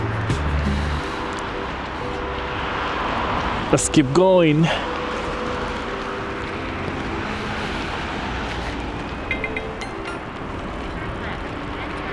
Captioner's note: wind Blowing